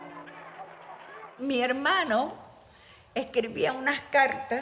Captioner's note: speaking in Spanish